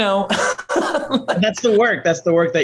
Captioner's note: laughs